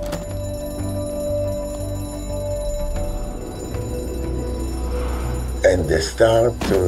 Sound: alarm clanging

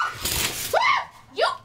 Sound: another scream; scream

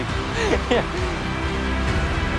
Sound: laughing

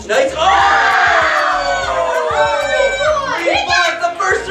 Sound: kids cheering

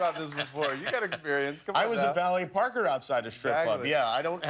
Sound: cheers

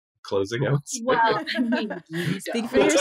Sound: laughing

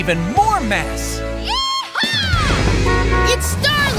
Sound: honking

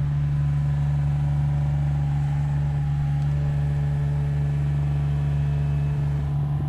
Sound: machine engine rumbling continues

